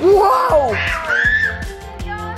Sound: screaming; upbeat music

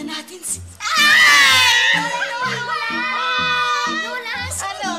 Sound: both screaming

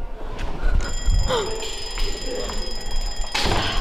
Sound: alarm clock rings

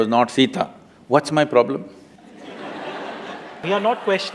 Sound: laughter

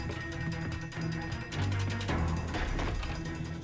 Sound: door opens

